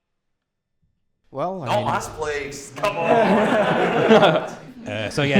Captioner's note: laughter